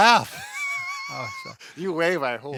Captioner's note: chuckling